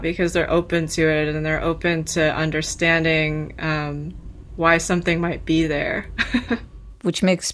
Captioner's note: laughter